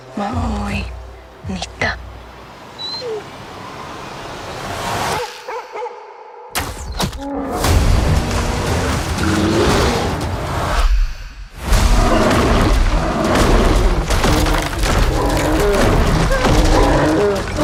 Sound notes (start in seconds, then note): 0.1 speaking native language; 2.8 dog whining; 5.2 dog barking; 13.2 bear growling